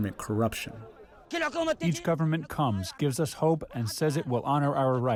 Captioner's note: through translator